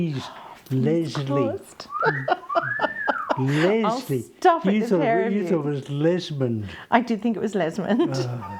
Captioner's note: off: wolf whistle